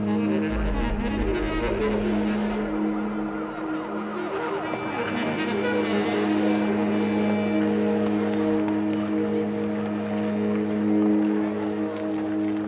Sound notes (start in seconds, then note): 2.5 sirens; 4.5 dissonant music